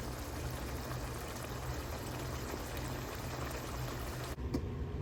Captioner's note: bubbling asmr